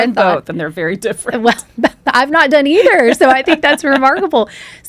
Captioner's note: laughs